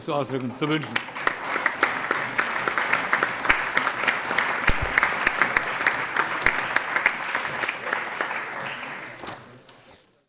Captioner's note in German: Allgemeiner Beifall